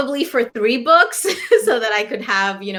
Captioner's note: laughter